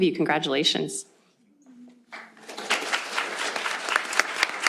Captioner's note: applause